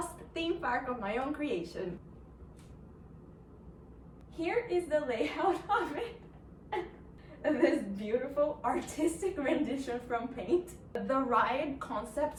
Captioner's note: laughs